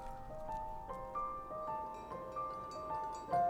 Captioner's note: bells ringing